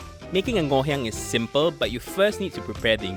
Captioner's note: voiceover